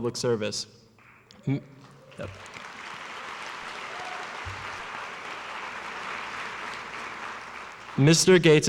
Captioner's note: applause